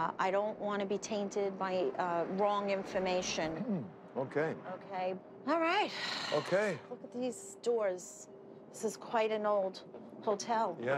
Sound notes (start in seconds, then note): 3.6 clears throat; 5.9 sighs